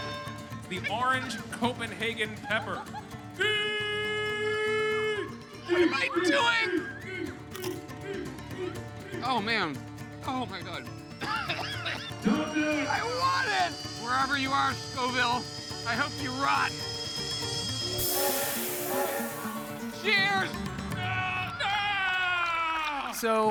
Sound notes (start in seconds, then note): 11.2 coughing; 18.0 steam whistling